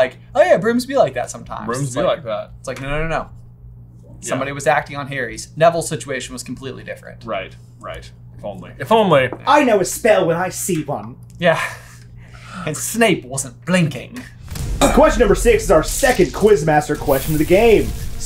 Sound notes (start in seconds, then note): 11.6 chuckling